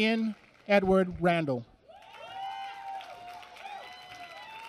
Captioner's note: applause